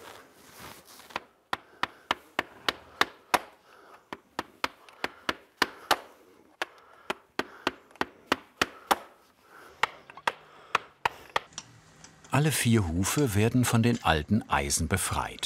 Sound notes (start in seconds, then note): 6.4 he breathes loudly